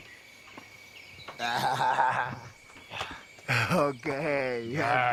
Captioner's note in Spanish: Risas